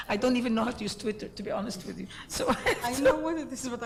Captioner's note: laughs